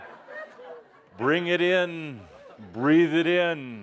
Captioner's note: laughter